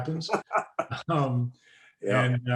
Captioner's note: laughing